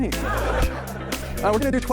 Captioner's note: audience laughing